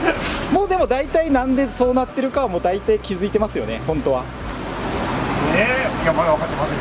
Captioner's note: laughs